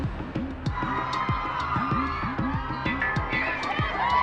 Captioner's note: crowd cheering